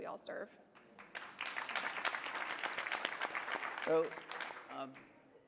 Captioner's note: applause